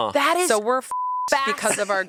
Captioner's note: beep